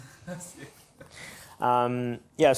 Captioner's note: laughs